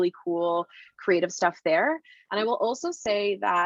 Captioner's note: none